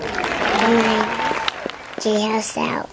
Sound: applause

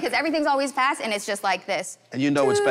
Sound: imitating falling noise

